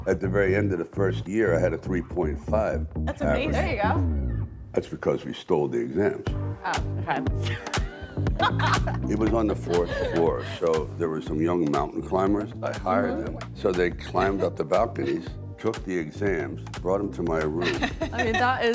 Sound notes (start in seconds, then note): 7.4 women laughing